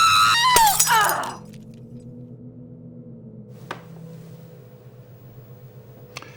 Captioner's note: loud groaning; glass shattering